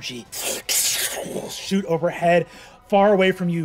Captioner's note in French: crépitement